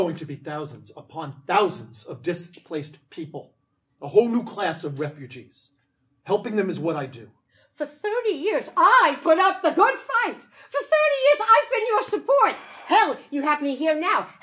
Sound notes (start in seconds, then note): none